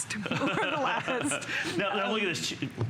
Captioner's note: laughter